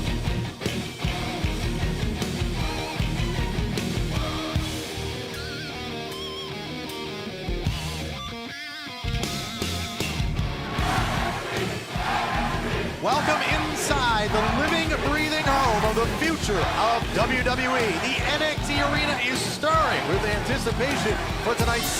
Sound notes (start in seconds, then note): 9.8 crowd cheering